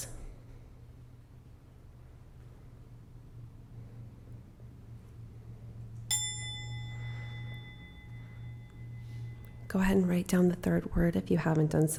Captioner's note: bell chiming